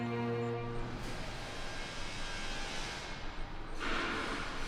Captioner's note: construction machinery sounds